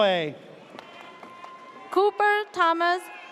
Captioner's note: audience cheers